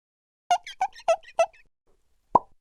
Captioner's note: marker squeaking; pop